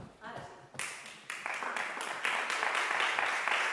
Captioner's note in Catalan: Aplaudiments